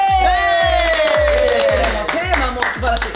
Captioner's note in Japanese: 拍手